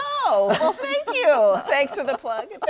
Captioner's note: laughs